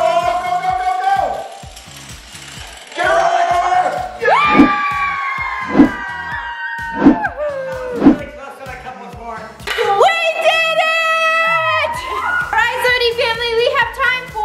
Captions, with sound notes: - Go go go go go! - (cheers) - We did it! All right SOTY family,